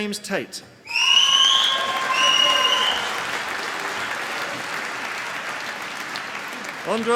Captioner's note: applause